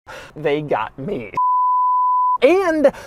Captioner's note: bars and tone